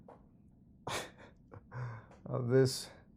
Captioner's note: laughs